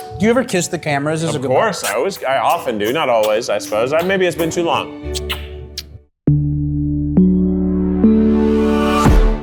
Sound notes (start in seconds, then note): 6.1 stomps